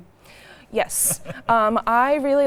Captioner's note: laughing